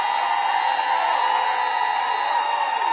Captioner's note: applause